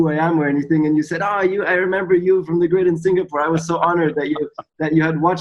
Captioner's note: Sadhguru laughs